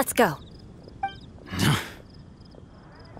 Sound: sigh

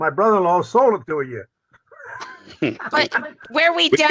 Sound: laughter

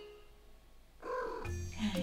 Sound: Soot trills

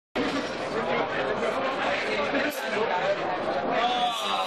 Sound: lots of game noise, people talking, and incidental music

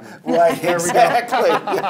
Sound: laughing

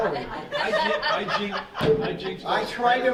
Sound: laughing

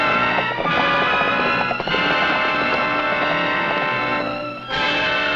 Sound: horse hooves pattering

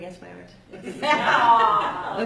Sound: laughter

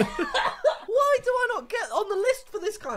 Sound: coughs

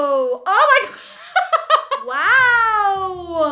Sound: laughing

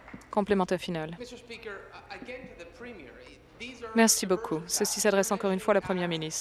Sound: applause

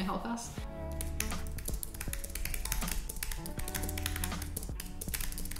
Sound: keyboard clicking

